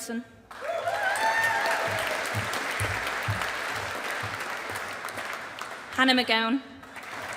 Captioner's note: audience applauding